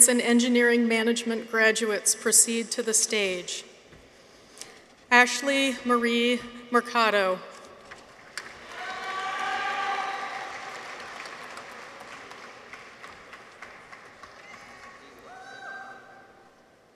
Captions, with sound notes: in Engineering Management Graduates proceed to the stage. Ashlie Marie Mercado. -(people cheer) -(audience applauds)